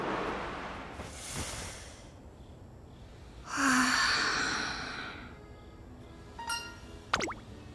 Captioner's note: deep breath; sigh